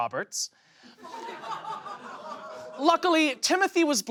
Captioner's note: audience laughs